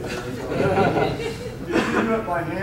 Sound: audience laughing

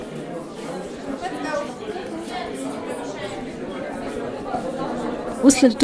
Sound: speaking Russian indistinctly

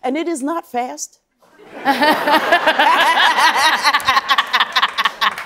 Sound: laughter

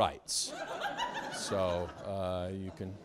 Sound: students laughing loudly

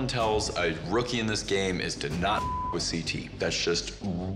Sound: beep

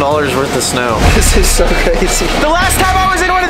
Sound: chuckles

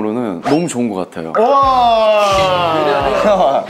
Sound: cheering

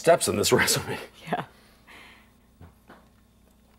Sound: laughs

